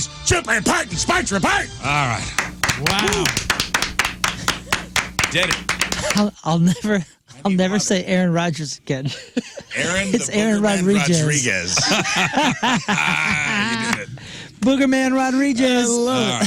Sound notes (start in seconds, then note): 2.3 clapping; 11.7 laughing